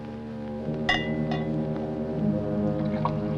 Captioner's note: glassware Clinks; liquid Pouring